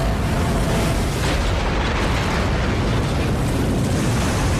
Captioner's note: cracking